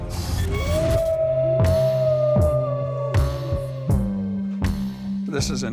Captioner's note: wolf howling